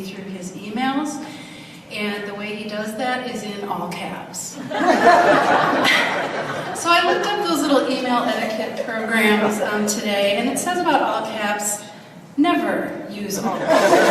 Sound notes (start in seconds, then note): 4.6 audience laughs